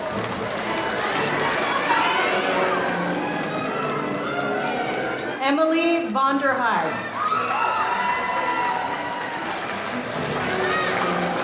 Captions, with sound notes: Emily Vonderhaar. (audience cheering)